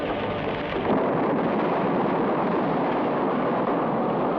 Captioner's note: explosions blast